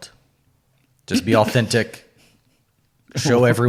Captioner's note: laughing